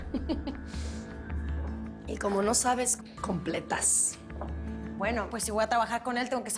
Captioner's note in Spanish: Mabel ríe